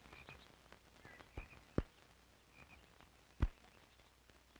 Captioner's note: birds chirping